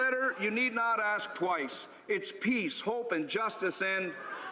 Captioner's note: laughter